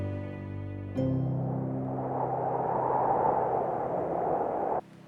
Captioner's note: wind whistles